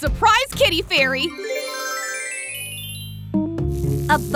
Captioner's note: transition tones; intriguing music